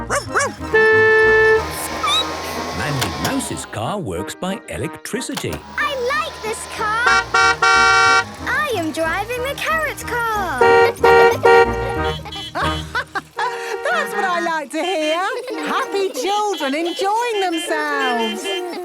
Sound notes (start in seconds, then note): 0.0 honking; 0.0 squeaking; 5.4 honking; 10.1 laughing; 10.6 honking; 11.3 horns honking; 17.9 laughter